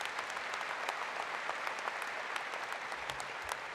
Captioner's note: applause